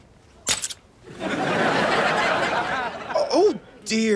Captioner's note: audience laughs